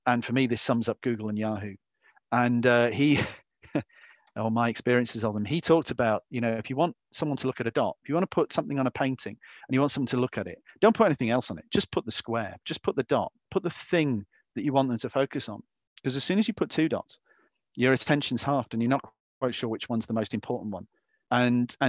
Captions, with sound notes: And for me, this sums up Google and Yahoo, and he-- [LAUGHS] or my experiences of them. He talks about, if you want someone to look at a dot, if you want to put something on a painting, and you want somebody to look at it, don't put anything else on it. Just put the square. Just put the dot. Put the thing that you want them to focus on. Because as soon as you put two dots, your attention's halved, and you're not quite sure which one's the most important one.